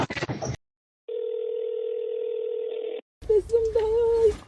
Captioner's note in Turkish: telefon sesi